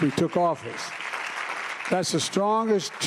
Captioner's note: applause